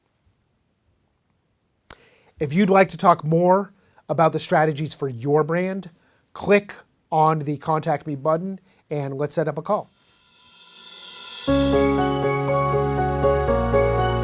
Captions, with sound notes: If you'd like to talk more about the strategies for your brand, click on the contact me button and let's set up a call. (air whooshing) (smooth music)